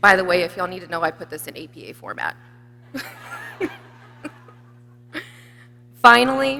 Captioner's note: people laughing